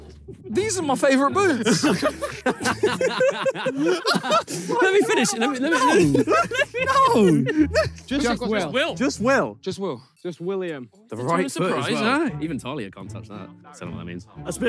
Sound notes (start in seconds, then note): 1.4 players laugh